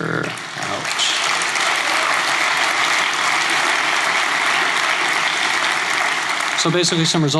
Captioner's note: applause